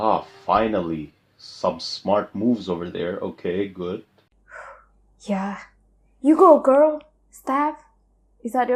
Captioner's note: phew